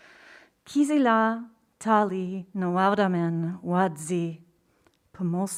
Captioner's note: speaking in foreign language